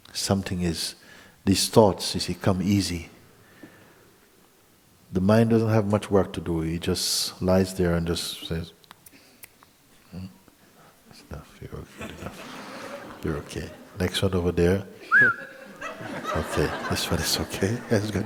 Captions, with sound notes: Something ... these thoughts come easy. The mind doesn't have much work to do. He just lies there and says, [snaps finger] 'That's enough. You're OK. You're OK'. [laughter] Next one over there. [whistles] 'OK. This one is OK.' [laughter]